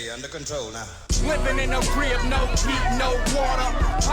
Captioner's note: indistinct shouting